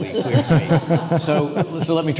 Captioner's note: panelists laughing